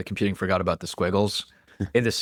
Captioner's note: laughs